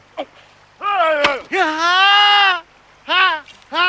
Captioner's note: groaning